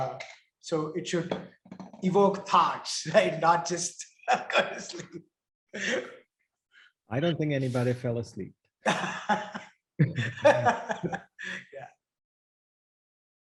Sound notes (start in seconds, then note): 4.3 laughs; 8.8 chuckles; 10.0 laughs